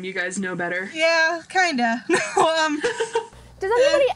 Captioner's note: laughs